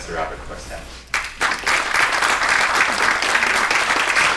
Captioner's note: applause